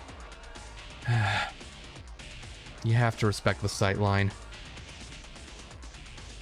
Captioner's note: sigh